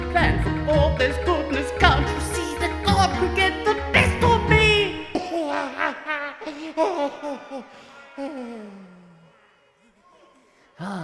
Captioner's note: laughing